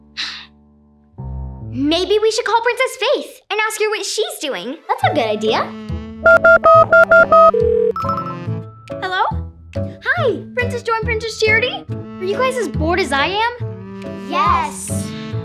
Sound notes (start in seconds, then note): 0.2 sighs; 6.2 phone beeping; 6.2 cellphone ringing